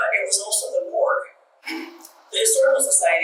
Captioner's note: clears throat